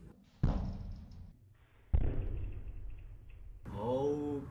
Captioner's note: balloon explodes at 1/4 speed